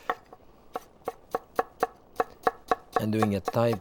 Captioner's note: knife chopping